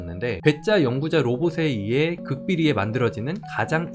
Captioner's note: voiceover